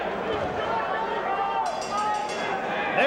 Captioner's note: bell dinging